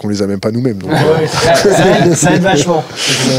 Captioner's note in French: rires